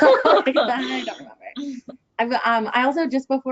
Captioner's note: chuckles